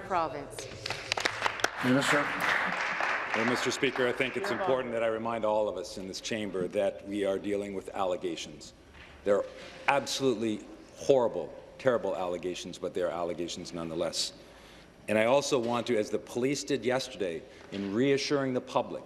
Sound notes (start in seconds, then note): 5.0 applause